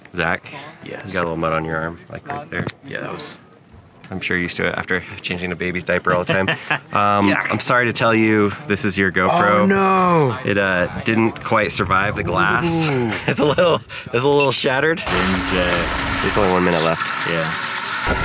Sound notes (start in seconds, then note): 6.2 laughs